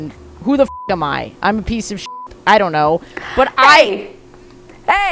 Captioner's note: beep